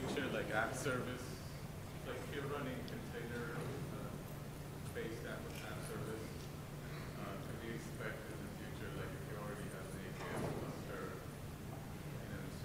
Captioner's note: off mic